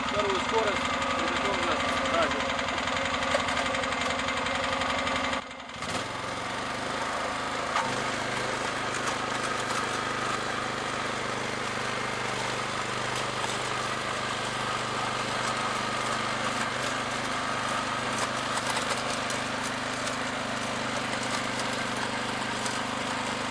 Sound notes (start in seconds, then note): 7.8 the noise of the engine can be heard